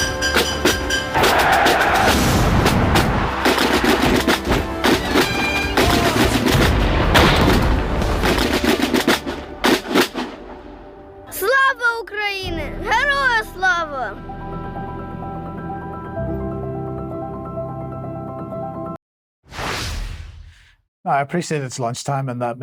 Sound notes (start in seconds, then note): 0.0 banging; 0.8 tires screeching; 4.6 banging; 10.8 speaking in foreign language